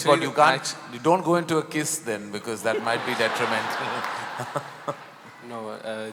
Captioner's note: laughter